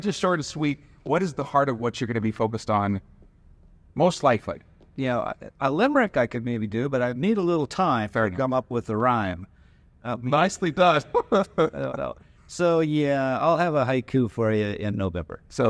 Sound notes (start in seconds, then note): 10.7 laugh